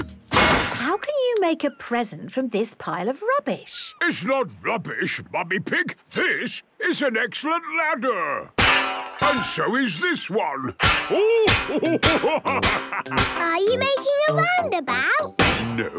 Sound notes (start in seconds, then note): 8.6 clanging; 11.1 laughing